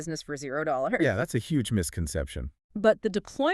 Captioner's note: chuckles